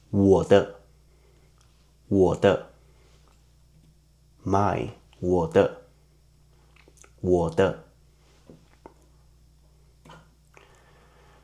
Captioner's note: in Mandarin